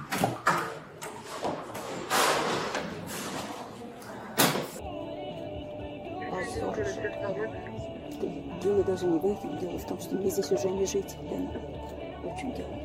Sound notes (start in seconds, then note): 6.2 speaking in foreign language